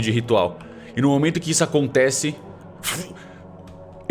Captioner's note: whip